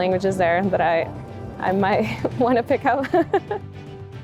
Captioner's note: chuckles; inspirational music